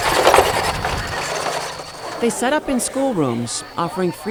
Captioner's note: squeaking